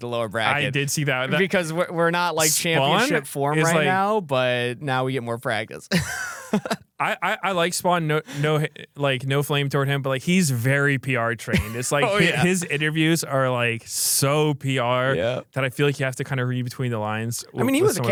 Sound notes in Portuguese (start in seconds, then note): 5.9 risos